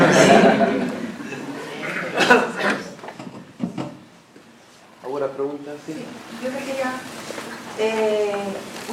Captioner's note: risas